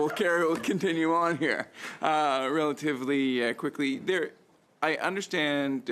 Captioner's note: laughter